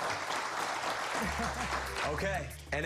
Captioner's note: applause